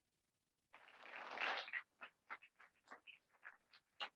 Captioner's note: applause